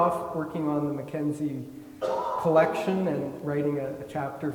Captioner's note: attendee coughing